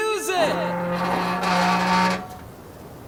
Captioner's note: creaking